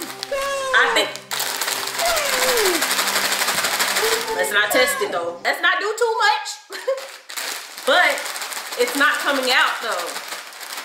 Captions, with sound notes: - I think... (chips rustle) Let's not test it, though. Let's not do too much. (chuckles) But it's not coming out, though.